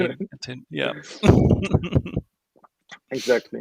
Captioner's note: laughing